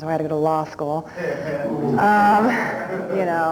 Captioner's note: laughter